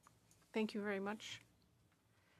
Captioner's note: speaking French